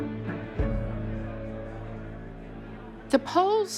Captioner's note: men clamoring